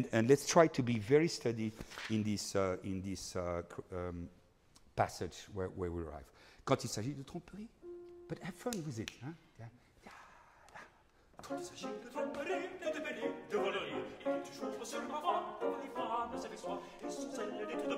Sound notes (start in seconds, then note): 6.9 speaking in foreign language; 11.9 singing in foreign language